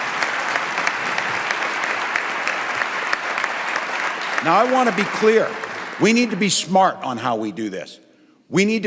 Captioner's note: applause